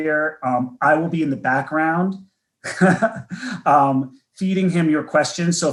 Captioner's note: laughs